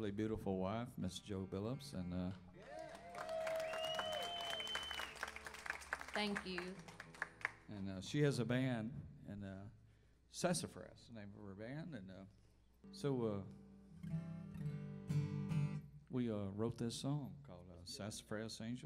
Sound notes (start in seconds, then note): 2.5 crowd cheers